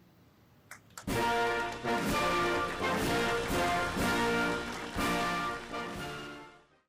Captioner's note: applause